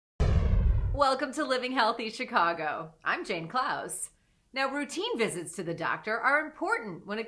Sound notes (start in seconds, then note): 0.2 logo whooshing